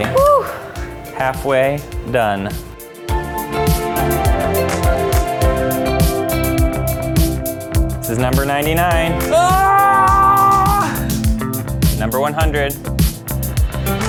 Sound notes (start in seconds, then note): 3.4 upbeat inspiring music; 9.3 screams